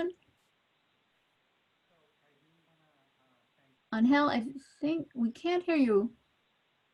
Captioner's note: no audible dialogue